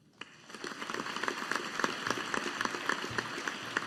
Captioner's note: audience applauding